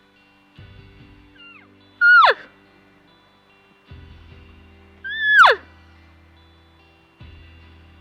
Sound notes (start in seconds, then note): 2.0 elk call noises